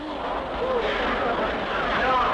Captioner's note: crowd noise